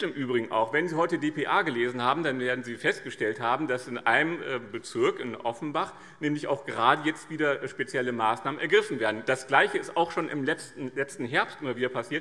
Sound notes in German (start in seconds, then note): none